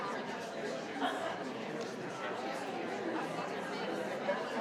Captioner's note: crowd talking continues